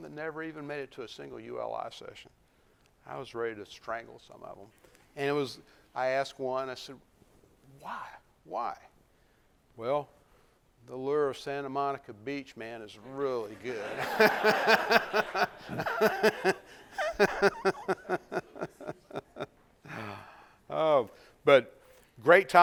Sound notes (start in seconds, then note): 13.7 laughter; 13.8 laughs